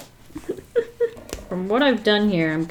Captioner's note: laughs